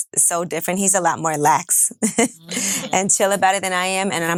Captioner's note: chuckling